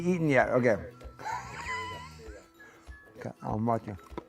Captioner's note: laughs